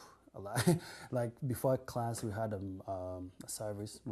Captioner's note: laughs